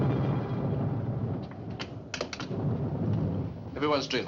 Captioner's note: thunderclap; thunderclap Fading